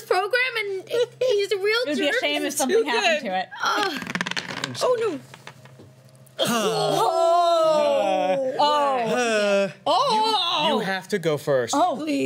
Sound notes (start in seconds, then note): 6.6 sighs of relief